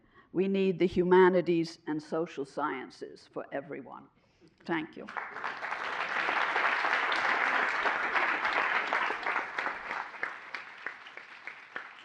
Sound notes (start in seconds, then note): 5.0 applause